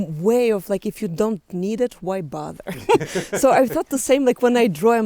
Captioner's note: laughs